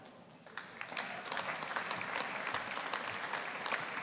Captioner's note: audience applauding